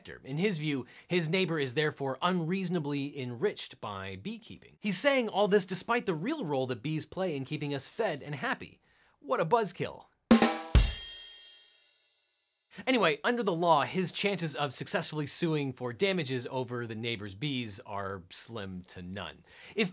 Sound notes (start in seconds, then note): 10.3 drum music; 10.9 eye tinkles